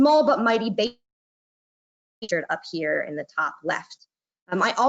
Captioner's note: audio glitches